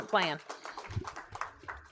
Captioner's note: applause